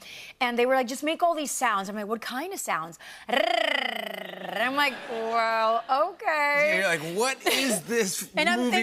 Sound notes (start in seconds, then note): 3.4 tongue rolling sound; 4.7 laughter